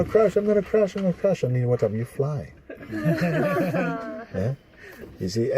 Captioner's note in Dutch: gelach